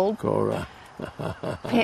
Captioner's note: chuckling